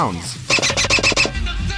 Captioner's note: sque-sque-sque-squeak